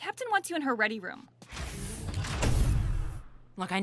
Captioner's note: door wooshes closed